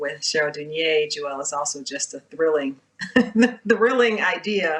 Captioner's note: chuckles